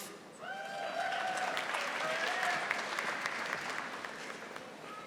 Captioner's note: audience applauding